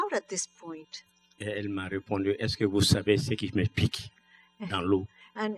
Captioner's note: speaking french